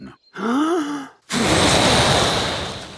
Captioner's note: inhaling deeply; blowing